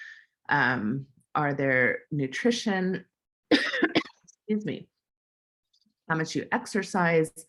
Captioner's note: cough